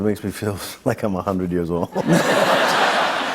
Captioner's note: laughter